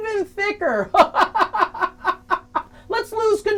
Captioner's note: laughing